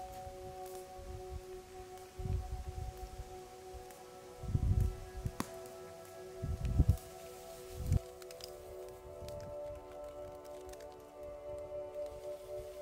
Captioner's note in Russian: треск от костра